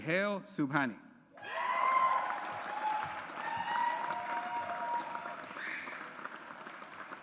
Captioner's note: audience applauds